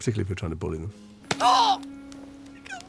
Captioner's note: dobby yelps